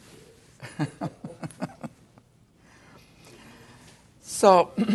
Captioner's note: laughter